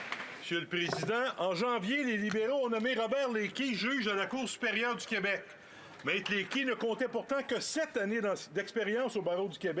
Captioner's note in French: applaudissements